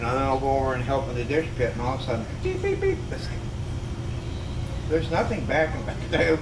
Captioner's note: beep beep beep